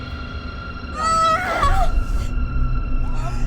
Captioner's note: screams